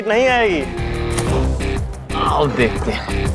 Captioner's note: Door closes